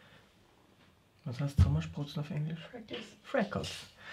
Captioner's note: in german